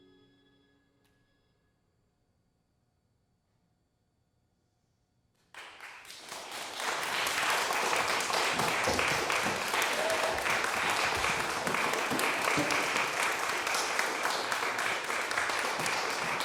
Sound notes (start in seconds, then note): 5.5 audience applauding